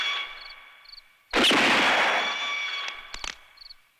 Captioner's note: gunshot